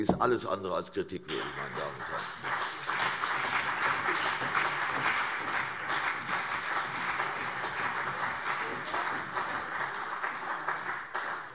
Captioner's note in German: Beifall CDU und vereinzelt BÜNDNIS 90/DIE GRÜNEN